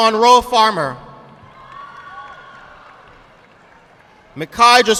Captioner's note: audience clapping